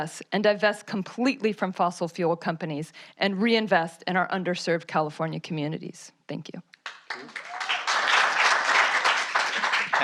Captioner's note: applause